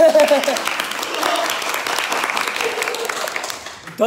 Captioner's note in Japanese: 拍手